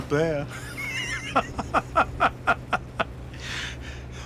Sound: laughs

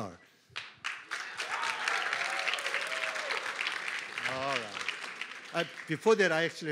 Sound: applause

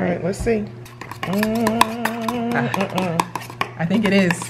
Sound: stirring

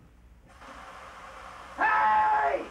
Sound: water sprays

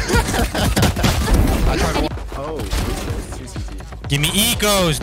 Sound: guns firing

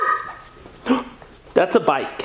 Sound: gasps

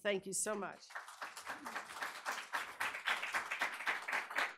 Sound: audience applauding

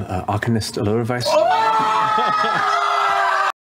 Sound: screaming in glee; laughs

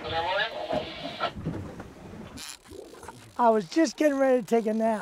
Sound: reel spinning

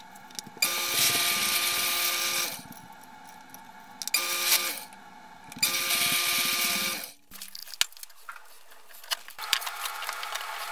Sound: drilling Noise

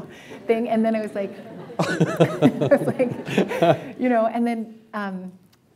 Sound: laughter

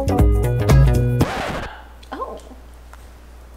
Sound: record scratch

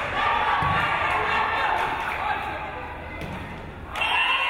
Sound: crowd cheering

